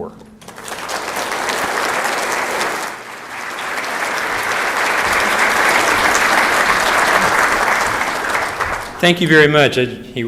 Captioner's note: applause